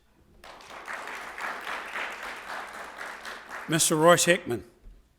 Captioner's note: audience applauding